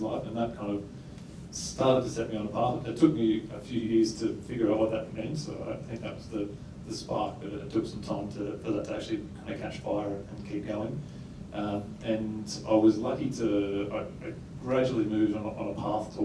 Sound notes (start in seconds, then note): none